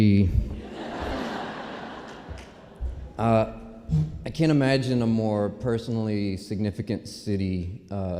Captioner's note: laughter